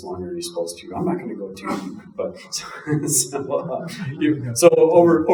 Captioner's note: chuckling